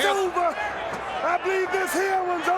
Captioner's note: crowd cheering